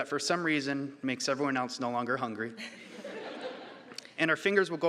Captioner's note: audience laughing